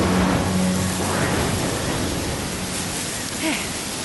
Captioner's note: thunder crashes; sighs